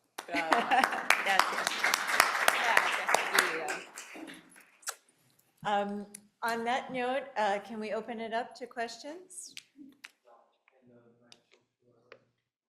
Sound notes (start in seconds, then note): 0.2 speaking in foreign language; 4.2 lips smacking